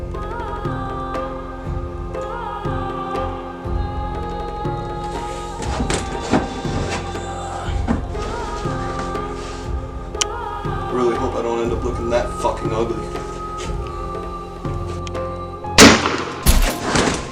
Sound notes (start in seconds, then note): 6.0 zombie Groaning; 15.8 gun Shot